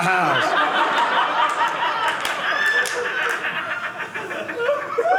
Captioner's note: audience laughing